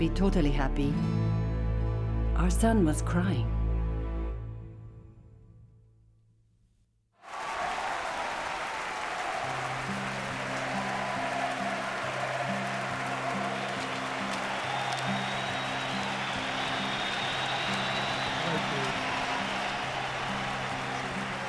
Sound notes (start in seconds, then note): 7.0 crowd shouting